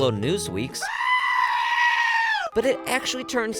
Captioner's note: goat screaming